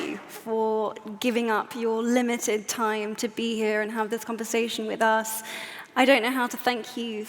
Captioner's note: none